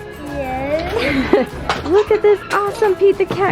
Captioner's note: laughing